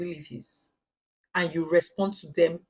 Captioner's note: paause